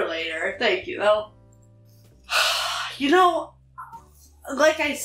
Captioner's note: sighs